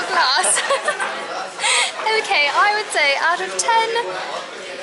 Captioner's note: laughter